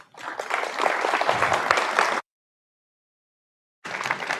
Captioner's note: audience applauds